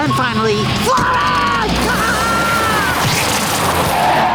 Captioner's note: laughing